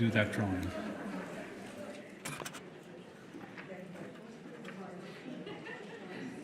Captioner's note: audience laughs